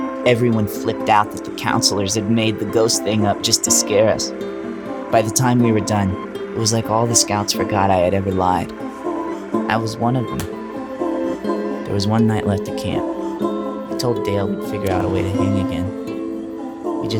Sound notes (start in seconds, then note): 10.3 hands slapping